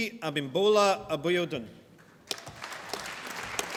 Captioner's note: applause